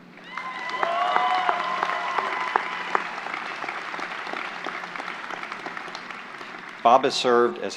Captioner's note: applause